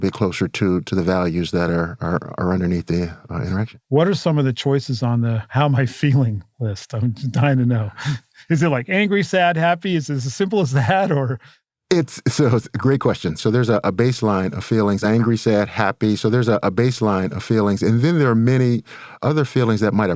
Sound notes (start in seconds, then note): 11.3 laugh